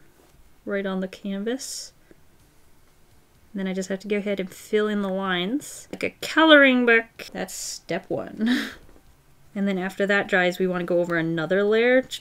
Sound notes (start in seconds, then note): 8.1 short laugh